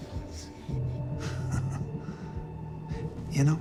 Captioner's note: Bobby chuckles